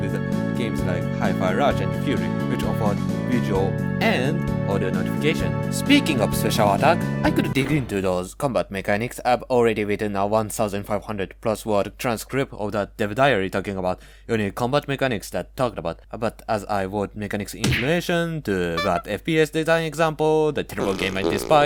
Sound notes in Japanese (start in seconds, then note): 11.3 英語